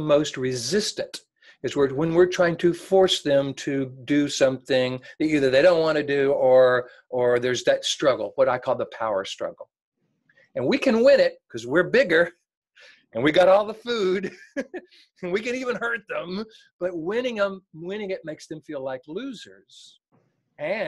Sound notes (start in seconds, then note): 14.4 laughs